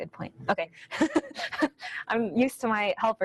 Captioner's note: laughs